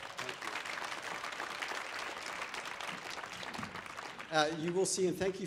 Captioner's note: audience applauding